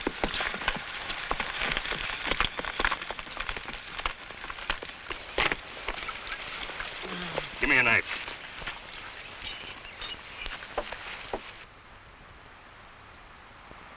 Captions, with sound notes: (horse hooves pattering) (man groans) - Give me a knife.